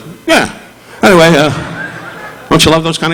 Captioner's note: audience laughing